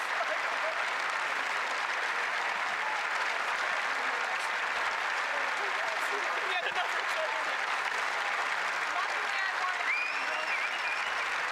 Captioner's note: applause